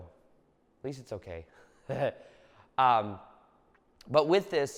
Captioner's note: laughs